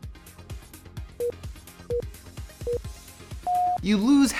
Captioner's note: beeping